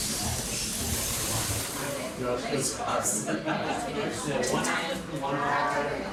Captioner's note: people speaking and laughing